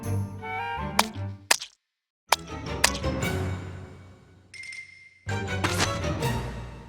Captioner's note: splat! Splat! Splat! Splat!